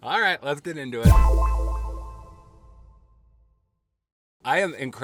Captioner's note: sharp tone echoing